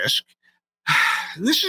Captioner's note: sigh